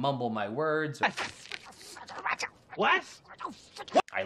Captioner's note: mumbling furiously